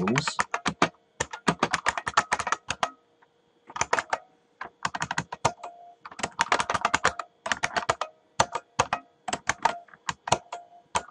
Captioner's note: typing